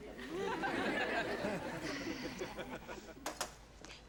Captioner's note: audience laughs